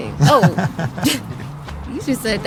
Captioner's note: laughing